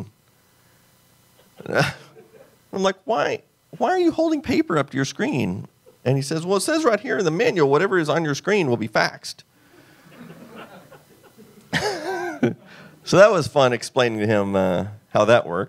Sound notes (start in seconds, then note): 1.4 laughs; 10.0 laughs